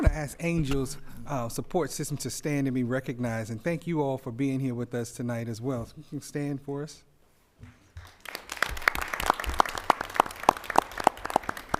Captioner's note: applause